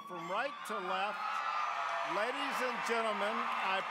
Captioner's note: applause, cheering